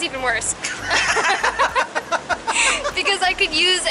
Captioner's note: laughing